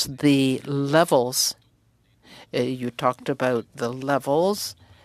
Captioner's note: speaking French